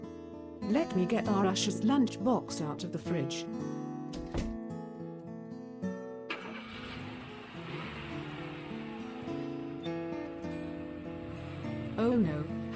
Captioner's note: car noise starts and drives off